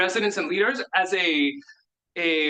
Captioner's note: speaks in Spanish